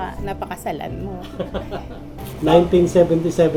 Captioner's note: laughs